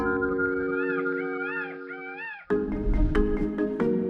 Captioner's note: bird cawing